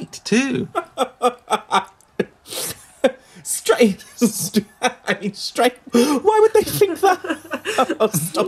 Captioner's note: laughs